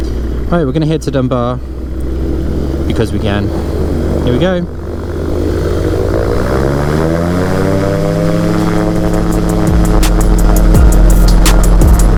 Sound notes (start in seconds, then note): 5.7 microlight engine roaring; 8.1 upbeat music